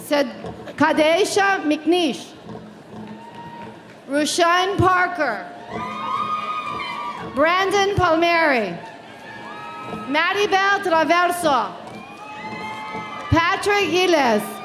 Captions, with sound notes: Cadeha McNish. Rushain Parker. (audience cheering) Brandon Palmieri. Maribel Traverso. Patrick Gilles.